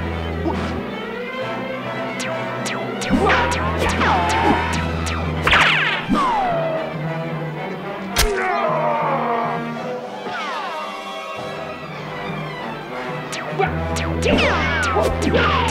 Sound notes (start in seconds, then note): 2.2 cartoon ricochet sound effects; 8.3 dying scream; 13.3 cartoon ricochet sound effects